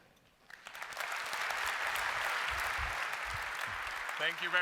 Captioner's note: applause